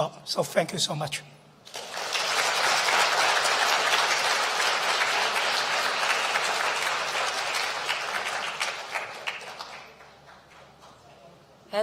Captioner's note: applause